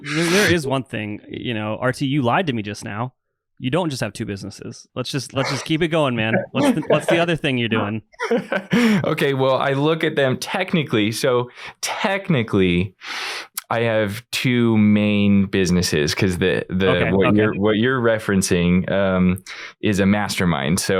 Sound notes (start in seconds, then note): 8.0 laughs